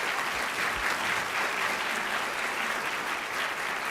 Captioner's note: applause